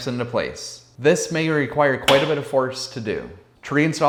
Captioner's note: snaps